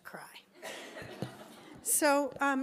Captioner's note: laughs